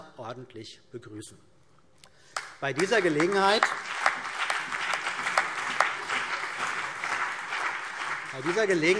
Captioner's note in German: Beifall CDU und BÜNDNIS 90/DIE GRÜNEN